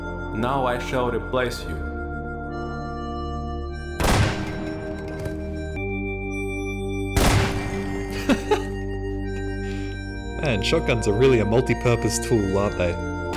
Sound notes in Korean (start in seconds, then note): 4.0 총소리; 7.1 총소리; 7.6 웃음